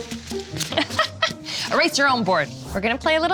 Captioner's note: laughing